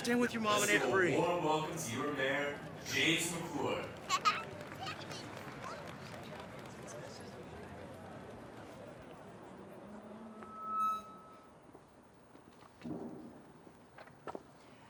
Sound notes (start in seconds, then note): 3.7 all chattering; 3.7 child laughing; 10.2 microphone feedback screeches